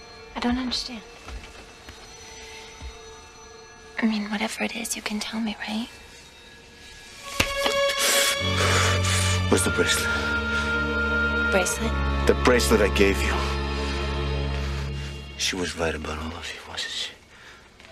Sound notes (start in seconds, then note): 7.4 Paul pants